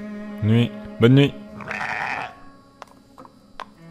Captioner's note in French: bruit d'animal